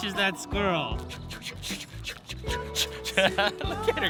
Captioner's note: whooshing